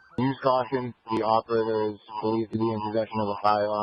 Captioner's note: broadcastify sound